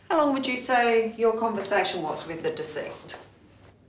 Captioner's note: none